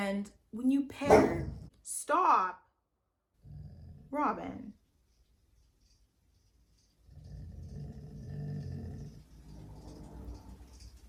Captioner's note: dog barks